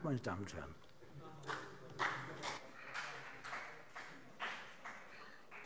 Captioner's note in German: Vereinzelter Beifall CDU